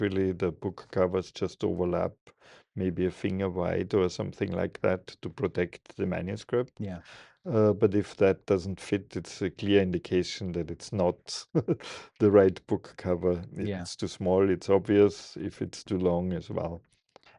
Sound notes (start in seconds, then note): 11.3 laughing